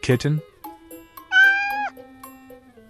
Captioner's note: meow